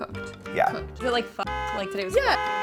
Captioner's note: horn blaring